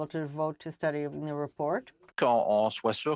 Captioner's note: speaking French